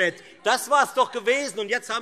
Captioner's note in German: Zurufe DIE LINKE